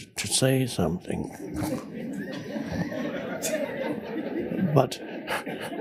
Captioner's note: audience laughs